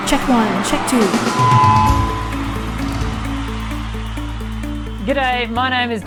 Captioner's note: cheering; gentle music